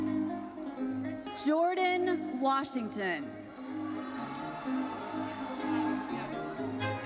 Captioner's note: audience cheers